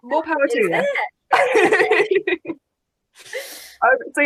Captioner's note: laughing